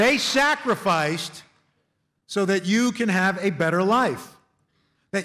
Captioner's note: none